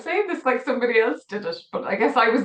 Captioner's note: laughs